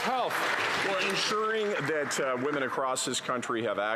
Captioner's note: some Applause